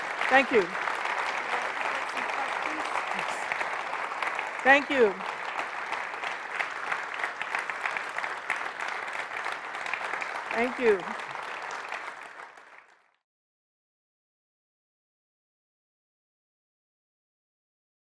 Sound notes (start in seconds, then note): 0.2 applause; 11.7 applause